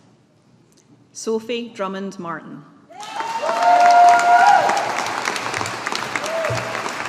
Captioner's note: audience applauding